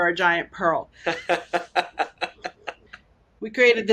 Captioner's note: laughs